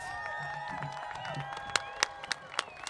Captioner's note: applause